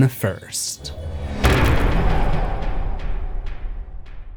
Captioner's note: impact